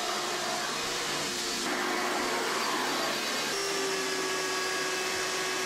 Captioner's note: vacuum cleaner vrrroooooom